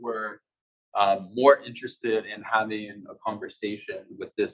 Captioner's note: male Voice